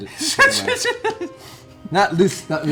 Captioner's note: sputtering, laughing